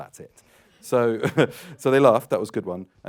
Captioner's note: laughs